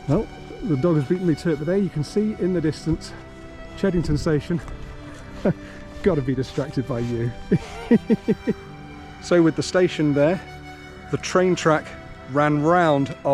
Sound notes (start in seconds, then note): 7.4 chuckles